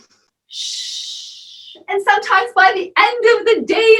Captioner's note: deep breathing and shushing